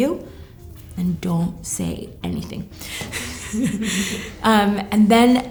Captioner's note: laughter